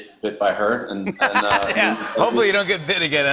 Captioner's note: laughter